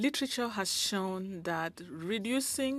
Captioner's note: speaking French